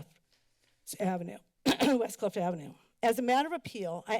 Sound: clears throat

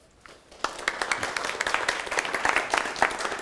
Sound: applause

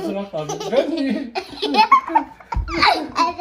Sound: giggling

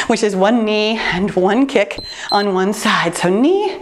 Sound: timer beeps

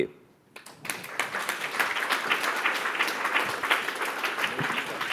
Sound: applause

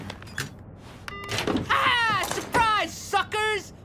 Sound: beep

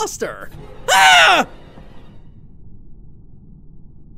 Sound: shrieks

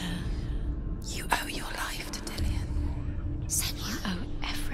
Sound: whisper

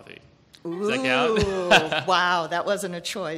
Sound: laughs

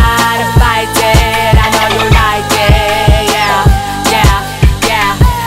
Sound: dolphin chirping

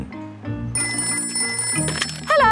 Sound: ringing

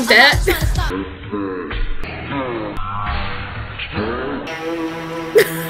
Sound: demonic sounding, slowed down audio; laughs

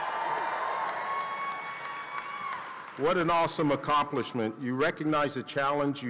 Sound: cheering

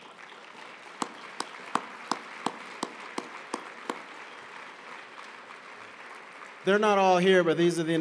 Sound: applause

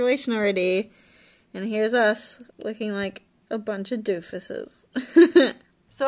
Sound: laughs

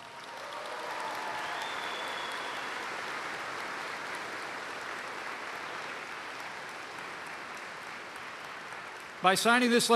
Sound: applause

